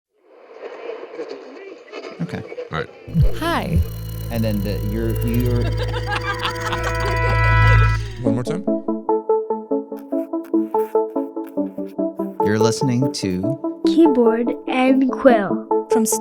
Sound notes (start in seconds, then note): 5.6 group laughs; 10.0 bright music